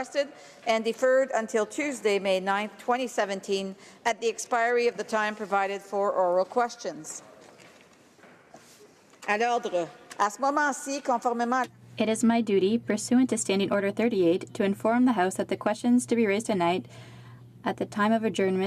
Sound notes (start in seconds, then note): 15.7 speaking in french